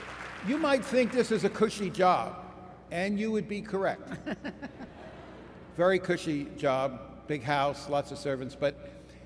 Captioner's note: applause